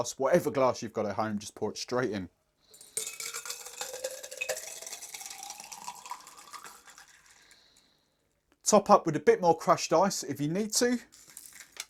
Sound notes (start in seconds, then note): 2.8 ice and liquid clinking; 11.6 ice cubes clinking glass